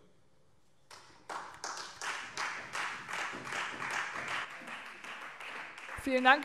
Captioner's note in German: Beifall Freie Demokraten